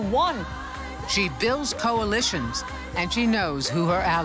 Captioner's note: cheers and applause